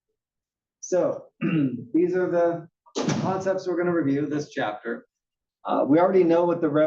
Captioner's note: cough